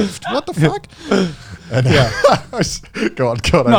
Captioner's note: laughing